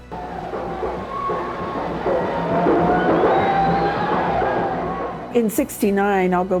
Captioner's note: protestors cheer; percussive marching music